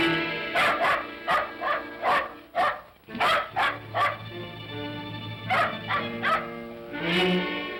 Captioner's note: ominous whimsical music; dog barks; ominous whimsical music